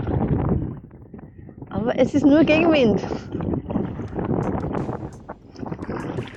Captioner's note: wind